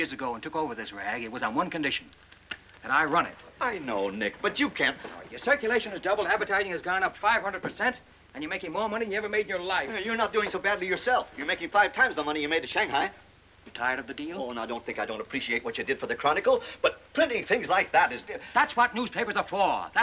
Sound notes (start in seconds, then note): none